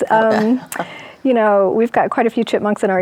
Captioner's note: chuckles